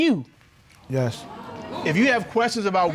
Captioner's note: audience exclaiming